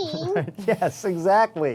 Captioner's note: laughter